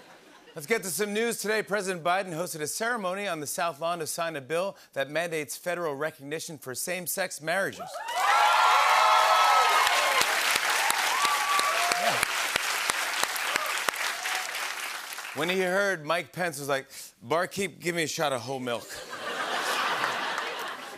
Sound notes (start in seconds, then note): 7.8 cheers and applause; 18.8 laughter